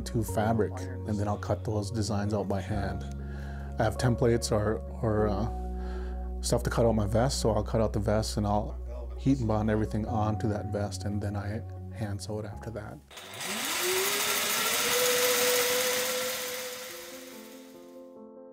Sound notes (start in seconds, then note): 13.1 machine whirs; 15.7 gentle piano music